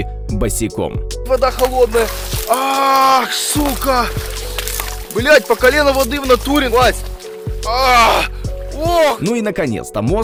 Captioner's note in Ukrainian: Крики через те, що холодна вода по коліно